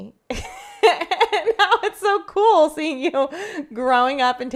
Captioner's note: laughs